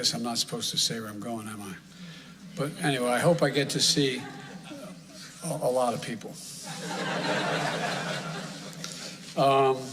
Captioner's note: laughter